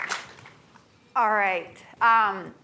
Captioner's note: applause